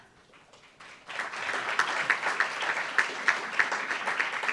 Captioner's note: applauds